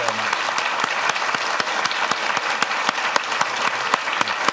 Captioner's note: audience clapping